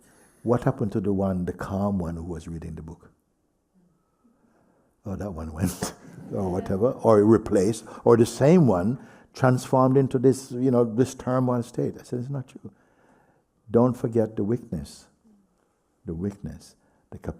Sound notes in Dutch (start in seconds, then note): 5.6 lacht